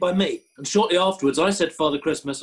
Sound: none

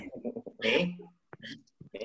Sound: laughing

